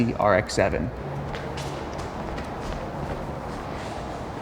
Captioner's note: feet shuffling